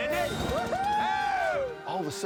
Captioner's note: cheering